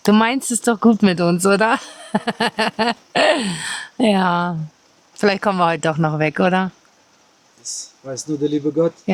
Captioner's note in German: gelächter; japst